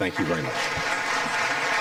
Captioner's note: applause